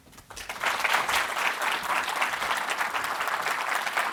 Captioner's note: audience applauding